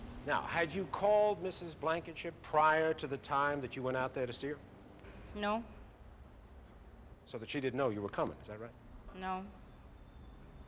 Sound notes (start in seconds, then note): none